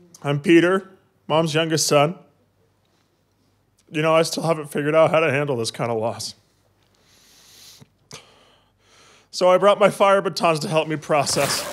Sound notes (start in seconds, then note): 8.1 deep breath